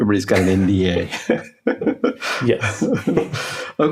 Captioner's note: laughing